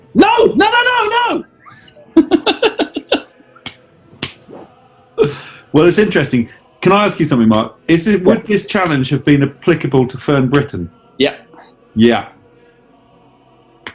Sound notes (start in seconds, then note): 1.5 giggling